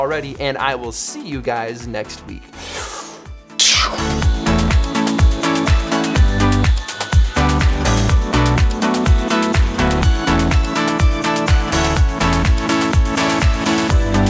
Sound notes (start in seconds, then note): 2.5 sucks in air; 2.5 exhales; 4.5 upbeat electronic music